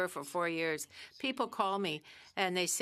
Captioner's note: speaking French